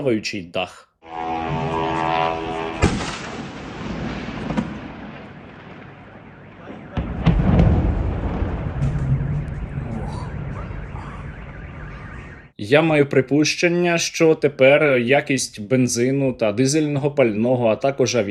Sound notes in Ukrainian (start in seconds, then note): 1.0 звук дрона; 2.9 вибух